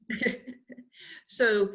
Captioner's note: laughs